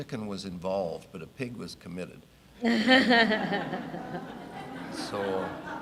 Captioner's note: audience laughing